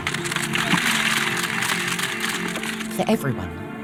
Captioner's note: cameras clicking